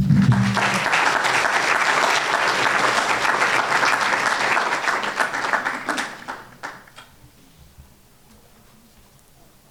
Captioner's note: applause